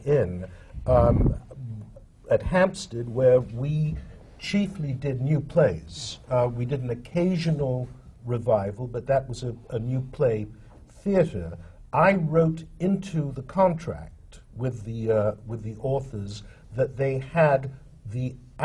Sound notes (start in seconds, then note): none